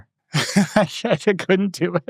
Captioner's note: laughing